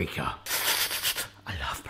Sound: slurping

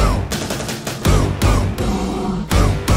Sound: roar!

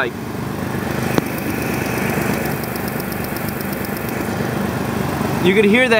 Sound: constant Clicking

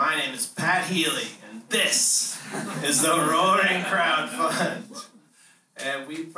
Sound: laughter

